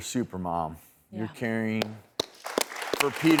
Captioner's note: audience applauding